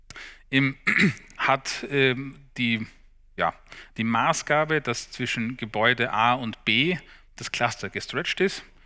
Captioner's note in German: räuspern